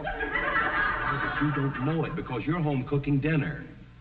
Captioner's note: audience snickering